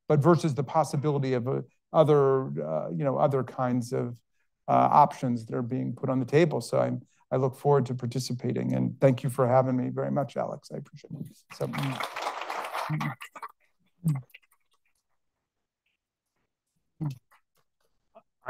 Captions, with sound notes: but versus the possibility of other, you know, other kinds of options that are being put on the table. So I look forward to participating and thank you for having me very much, Alex. I appreciate, so... (audience clapping)